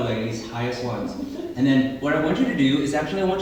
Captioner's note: laughing